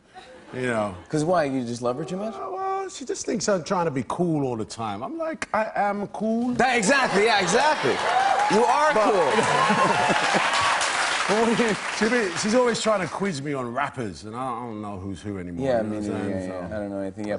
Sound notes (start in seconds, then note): 10.0 cheers and applause